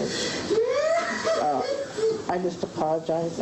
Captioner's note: sobbing